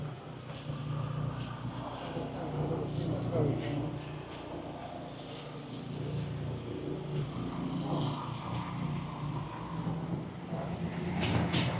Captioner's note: street noise